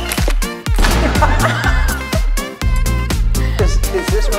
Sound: laughs loudly

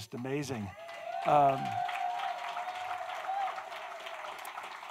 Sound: audience cheering

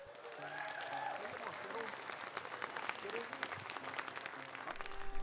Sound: audience cheers and applauds

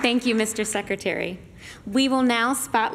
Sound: applause

